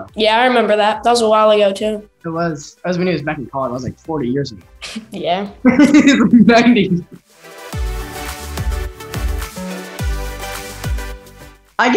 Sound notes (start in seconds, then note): 5.6 laughing; 8.6 upbeat music